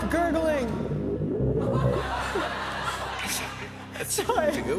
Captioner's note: liquid warbles